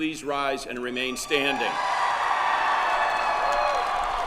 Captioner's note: cheering